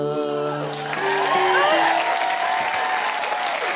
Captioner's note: cheering, applause